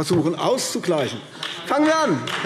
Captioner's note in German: Beifall AfD